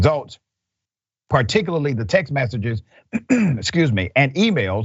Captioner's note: cough